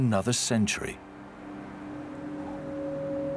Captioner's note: wind blowing